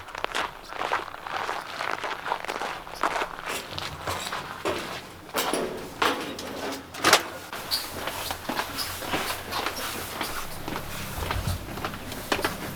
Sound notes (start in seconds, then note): 5.2 metal clanks; 7.5 door clicks; 9.7 footsteps clacks